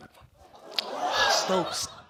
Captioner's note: audience exclaims